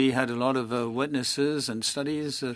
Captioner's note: speaking French